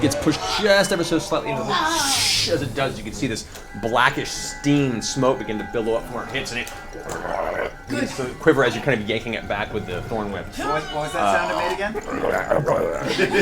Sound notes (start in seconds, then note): 7.7 growls; 12.5 growls